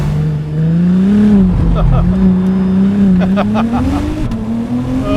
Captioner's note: laughs